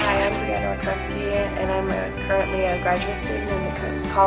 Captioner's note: speaks softly